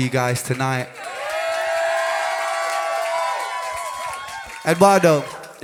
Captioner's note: cheers and applause